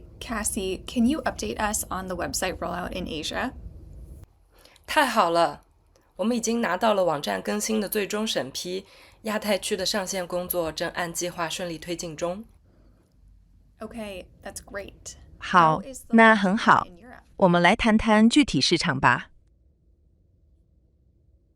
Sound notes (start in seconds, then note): 5.7 speaking chinese; 17.2 speaking chinese